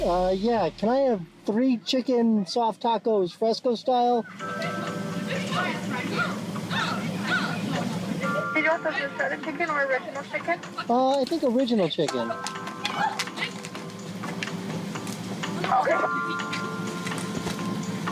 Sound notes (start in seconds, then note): 12.8 indistinct shouting